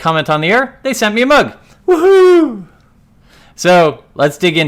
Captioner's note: squeals